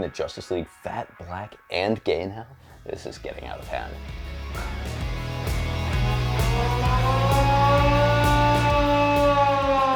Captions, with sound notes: that they're making the Justice league fat, Black and gay in hell. This is getting out of hand. (upbeat music) (siren blaring)